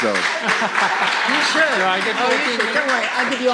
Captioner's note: voiceover; applause; laughter; voiceover